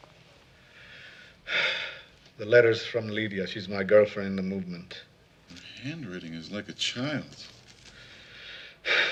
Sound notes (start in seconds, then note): 1.4 sighs